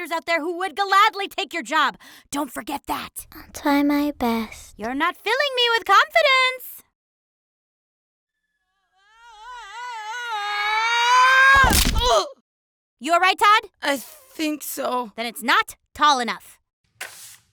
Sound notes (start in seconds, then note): 8.4 screaming; 11.6 thunk